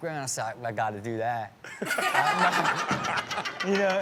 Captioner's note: all laugh